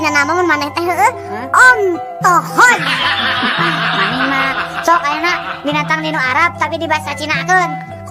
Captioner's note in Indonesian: tertawa